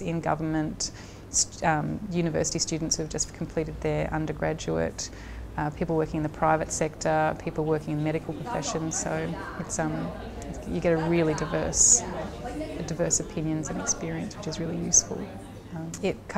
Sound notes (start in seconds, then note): 7.0 sound of students talking